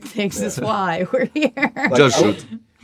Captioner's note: laughter